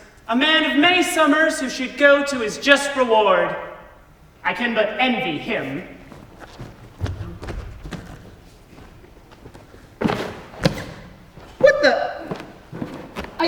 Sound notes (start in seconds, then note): 5.4 steps away heavily; 9.9 box smashes under his step